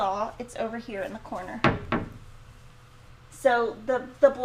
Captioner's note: cupboard door banging